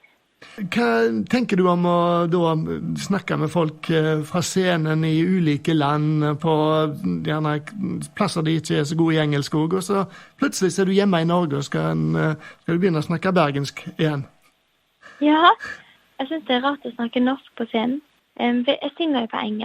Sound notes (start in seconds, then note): 14.2 norwegian dialect